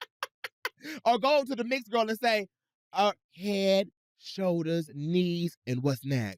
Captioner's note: laughs